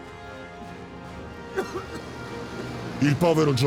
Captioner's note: coughing